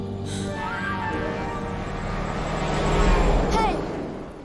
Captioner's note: horn honking